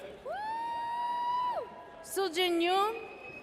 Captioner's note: audience cheers